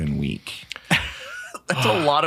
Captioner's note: chuckles